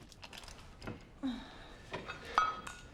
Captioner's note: exhales